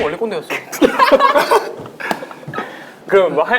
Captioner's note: laughing